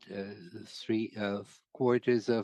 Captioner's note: speaking French